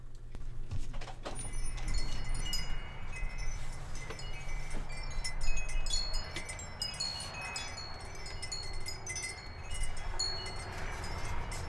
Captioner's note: sounds of wind and chimes